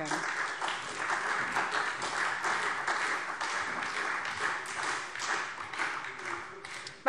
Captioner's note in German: Beifall SPD und Freie Demokraten